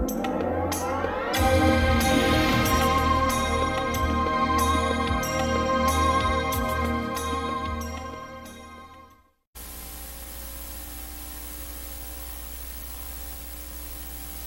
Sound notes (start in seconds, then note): 9.6 VHS static